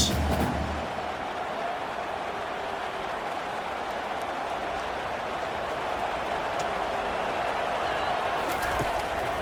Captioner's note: crowd cheering